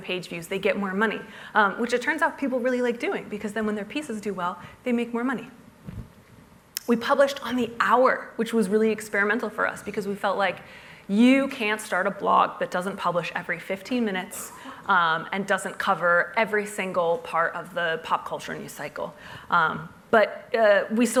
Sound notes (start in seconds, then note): none